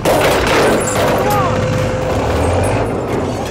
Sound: Van Shouting

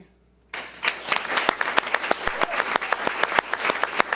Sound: audience applauds

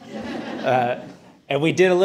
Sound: audience laughing

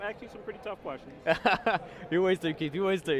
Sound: laughter

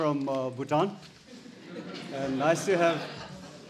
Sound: audience laughs

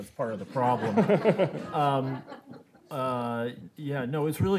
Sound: laughing

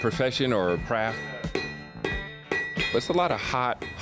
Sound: hammer clangs

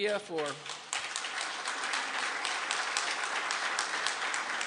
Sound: applause

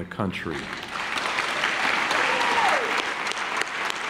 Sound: clapping

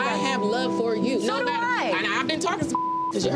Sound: beep

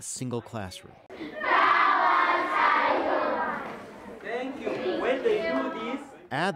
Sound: reciting in unison

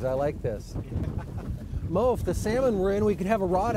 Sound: laughter

